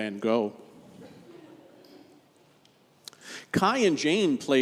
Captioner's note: congregation chuckles